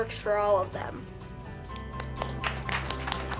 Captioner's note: applause